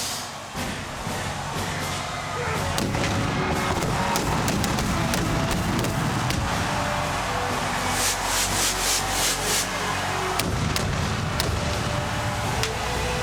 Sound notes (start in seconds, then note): 2.7 fireworks banging